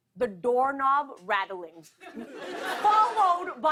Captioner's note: laughter